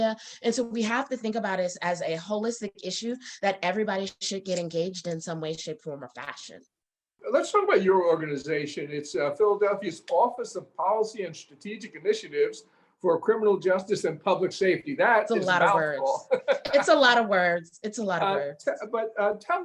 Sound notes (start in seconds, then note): 16.6 laughs